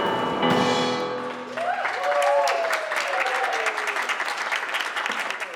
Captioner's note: crowd applauding